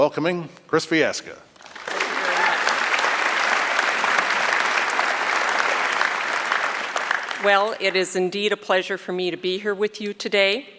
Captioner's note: applause